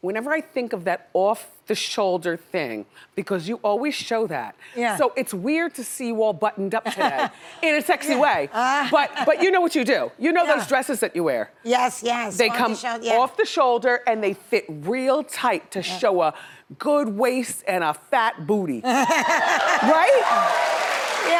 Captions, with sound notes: whenever I think of that off-the-shoulder thing because you always show that. Yeah. So its weird to see you all buttoned up today. (laughs) In a sexy way! But you know what you do. You know those dresses that you wear. Yes, yes-- They come off the shoulder, and they fit real tight, to show a good waist, and a fat booty. (laughs) Right? (audience clapping)